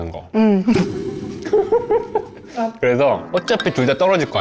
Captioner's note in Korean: 듣자마자 터지는 웃음